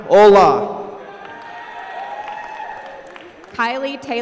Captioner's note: applause